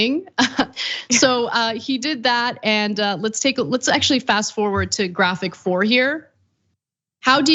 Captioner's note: laugh